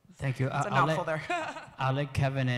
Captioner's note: laughs